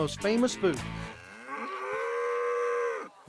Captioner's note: mooing